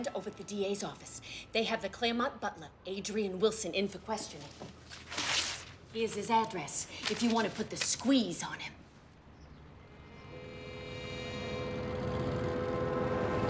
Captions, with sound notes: at the D.A.'s office. They have the Clairmont butler Adrian Wilson in for questioning. Here's his address if you wanna put the squeeze on him. (TENSE MUSIC PLAYS) (CAR APPROACHING)